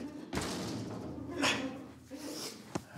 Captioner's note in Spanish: se oyen quejidos